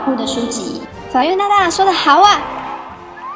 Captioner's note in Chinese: 欢呼